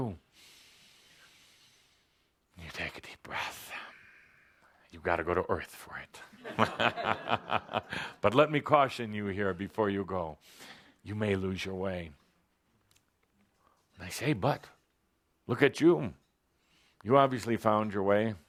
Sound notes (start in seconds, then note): 6.5 chuckles